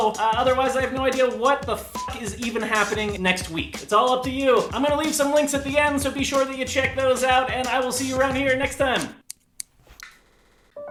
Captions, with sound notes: Otherwise I have no idea what the f*ck is even happening next week. It's all up to you. I'm gonna leave some links at the end so be sure to check those out. And I will see you around here next time. [Snip snip snip]